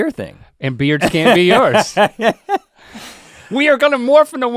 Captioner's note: Rhett guffaws